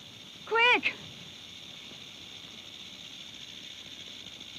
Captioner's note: snake rattles